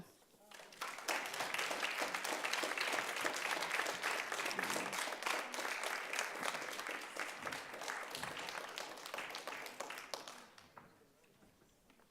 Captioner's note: applause